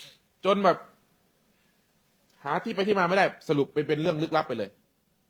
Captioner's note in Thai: เสียงสูดหายใจ